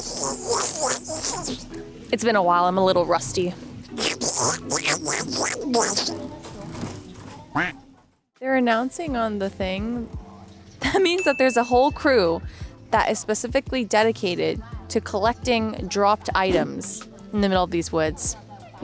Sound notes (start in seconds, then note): 0.2 Donald Duck impression; 4.4 Donald Duck impression; 7.5 duck quacking